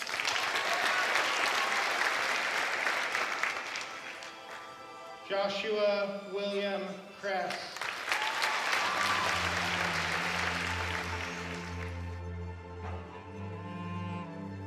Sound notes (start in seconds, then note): 0.0 audience applauding; 7.2 audience applauding; 10.3 emotional music